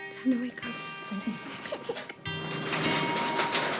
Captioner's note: giggles